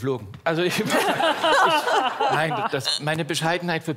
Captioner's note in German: Lachen